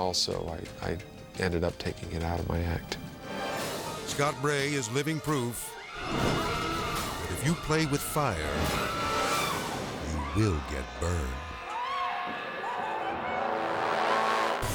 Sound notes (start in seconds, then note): 5.4 fire blaring; 5.8 screaming; 11.2 intense music; 11.2 people screaming; 14.1 graphics booming